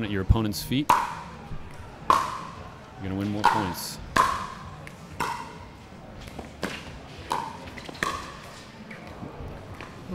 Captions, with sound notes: at your opponent's feet, (ball bouncing) you're gonna win more points. (ball bouncing)